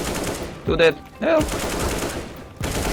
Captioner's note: gun fires